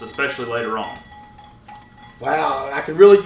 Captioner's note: bowl clinking